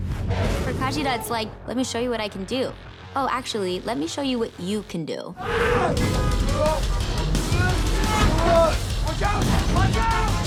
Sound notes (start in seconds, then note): 5.4 Jaime screaming; 5.5 horns honking